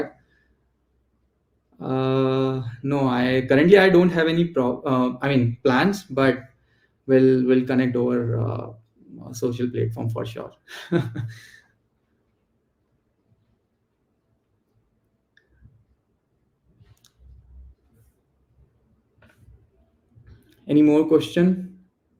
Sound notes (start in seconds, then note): 10.6 chuckles